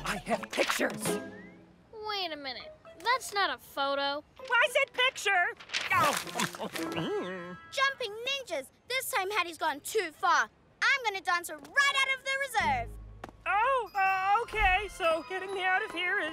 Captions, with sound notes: - I have pictures! - Wait a minute. - That's not a photo. - Well, I said "picture"! (Chomping) Jumping Ninjas! This time Haddy's gone too far! I'm gonna dance her right out of the Reserve! Oh, OK. So, getting me out of here